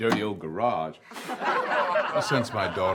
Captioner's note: audience laughs